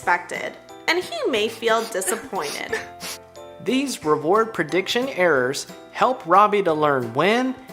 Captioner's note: crying